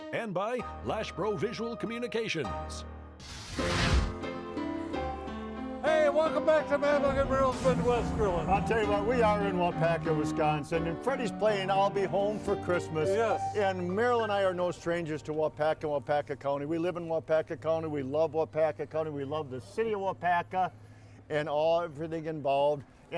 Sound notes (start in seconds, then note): 3.2 fire whooshing; 4.3 light upbeat music